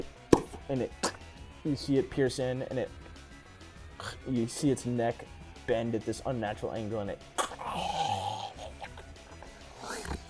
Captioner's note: moaning